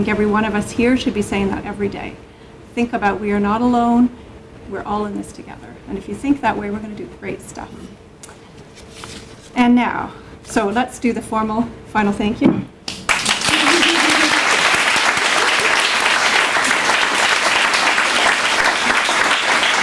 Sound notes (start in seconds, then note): 12.6 clapping